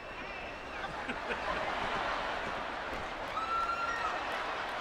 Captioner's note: audience laughing; audience cheering